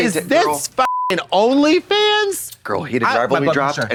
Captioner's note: beep